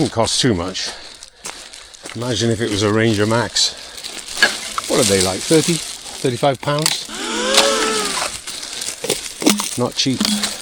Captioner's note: gasp!